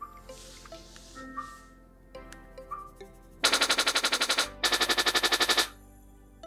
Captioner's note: the sound of the TV remote control